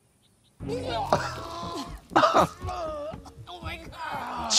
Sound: Amy and Danny retching

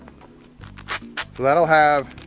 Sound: scratching

